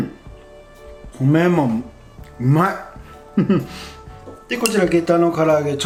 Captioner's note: haha